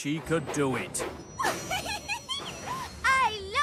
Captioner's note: millie giggles